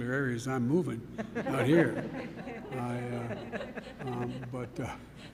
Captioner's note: laughter